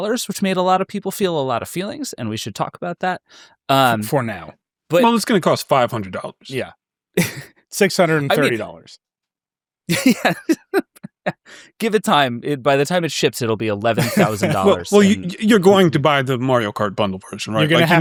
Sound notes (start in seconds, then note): 9.9 laughs; 9.9 chuckles